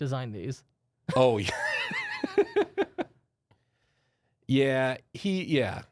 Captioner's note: softly chuckling